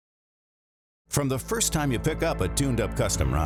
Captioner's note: voiceover